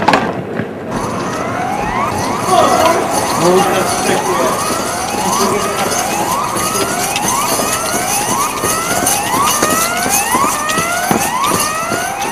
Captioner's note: alarm